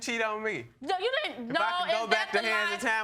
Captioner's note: stutters